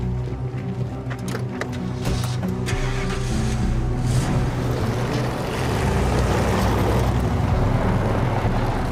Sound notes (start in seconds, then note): 0.0 intense music; 2.4 engine whirs